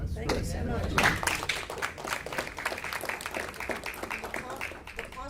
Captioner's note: audience claps